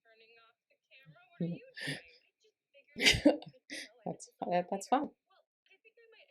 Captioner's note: laughing